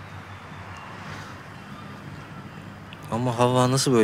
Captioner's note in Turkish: Martı sesleri